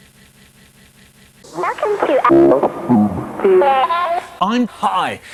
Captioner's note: speech becomes distorted and garbled